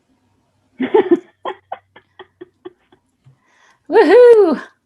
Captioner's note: laughing